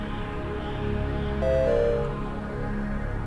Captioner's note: computer chimes